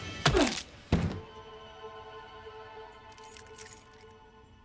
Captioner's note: weapon thudding; keys jangling